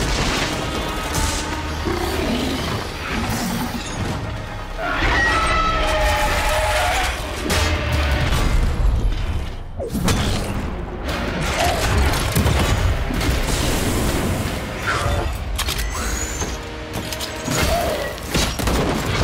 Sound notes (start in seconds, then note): 0.6 deep roar